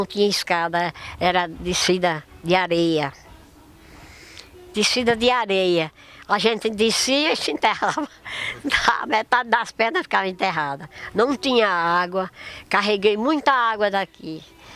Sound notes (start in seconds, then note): 7.4 laughs